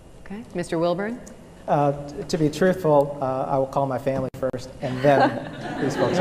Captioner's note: laughter